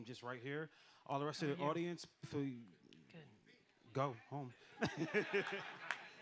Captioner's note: laughs